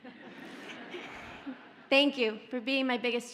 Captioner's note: audience laughs